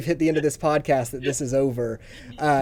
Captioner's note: laughs